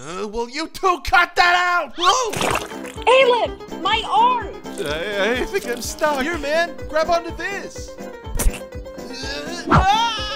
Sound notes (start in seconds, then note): 2.3 splat; 9.7 Alef screams